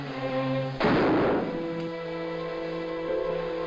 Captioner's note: gun fires